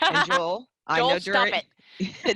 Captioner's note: laughter